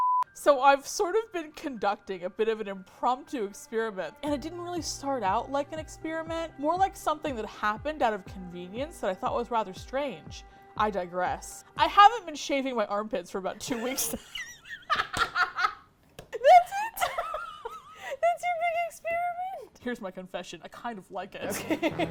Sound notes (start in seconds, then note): 13.6 laughs; 21.4 laughter